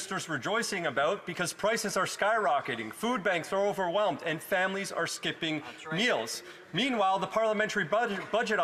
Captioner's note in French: voix de l'interprète